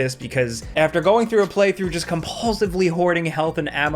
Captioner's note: none